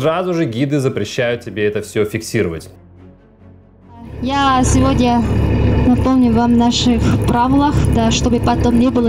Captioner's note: the guide speaking russian